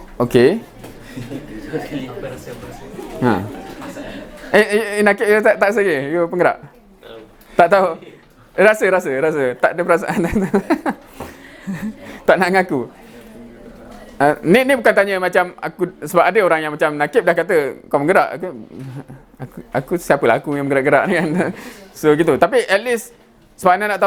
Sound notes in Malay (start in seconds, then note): 10.0 ketawa